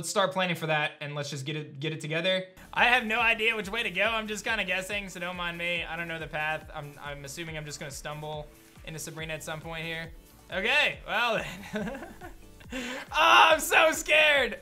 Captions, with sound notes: planning for that and let's just get it together. I have no idea which way to go. I'm just kind of guessing, so don't mind me. I don't know the path. I'm assuming I'm just going to stumble into Sabrina at some point here. Okay. Well then. (laughs) Ah, I'm so scared!